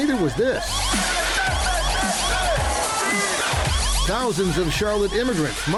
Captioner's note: protestors shouting